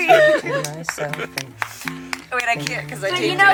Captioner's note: both laugh